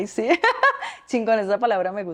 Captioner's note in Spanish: Risas